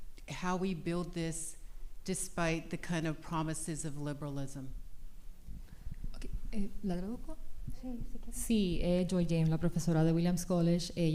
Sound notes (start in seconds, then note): 6.2 speaking spanish